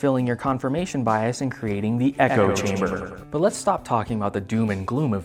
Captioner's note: echoing